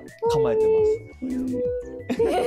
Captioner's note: laughs